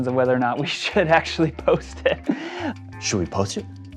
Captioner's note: laughs